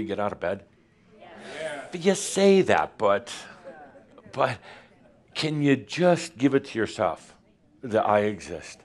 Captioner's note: audience says “Yes”